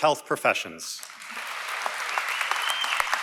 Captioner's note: applause & Cheering